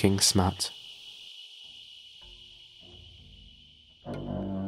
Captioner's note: shimmery hissing sound